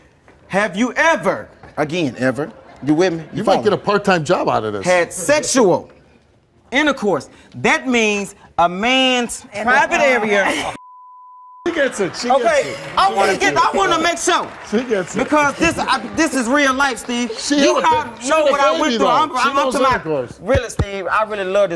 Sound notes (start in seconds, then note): 9.8 audience laughing